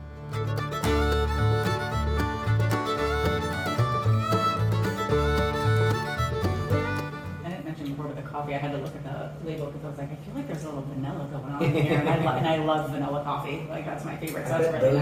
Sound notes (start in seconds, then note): 0.3 upbeat Music; 11.6 laughter